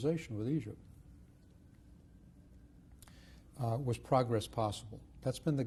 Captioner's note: pauses for 3 seconds